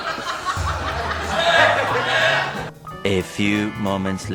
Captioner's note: laughter